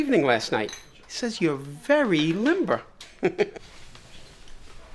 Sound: giggles

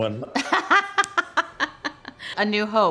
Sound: Ming-Na laughs

